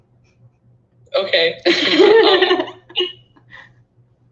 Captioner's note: laughing